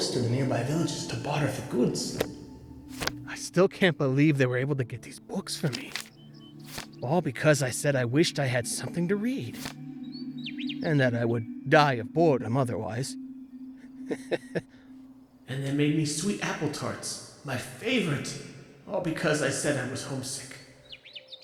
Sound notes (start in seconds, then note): 13.9 Roland chuckles